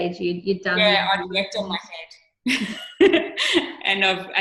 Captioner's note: chuckling